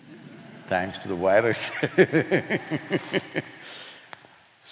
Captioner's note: laughs